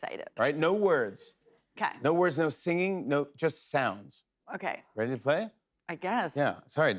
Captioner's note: none